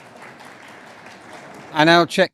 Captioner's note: audience Applauding